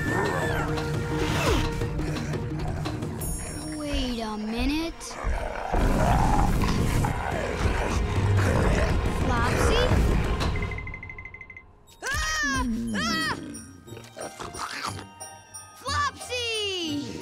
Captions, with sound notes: Wait a minute. Flopsy? [shrieking] Flopsy!